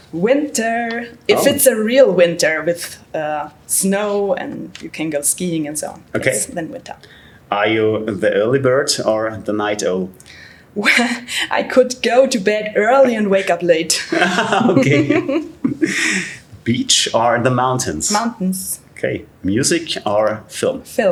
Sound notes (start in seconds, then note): 10.8 chuckles; 14.0 laughter